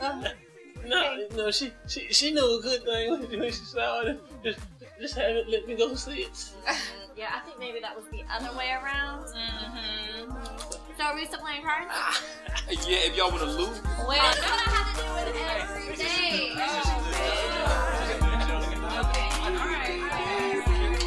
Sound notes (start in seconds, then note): 6.6 laughter; 16.8 chattering; 16.8 hip hop music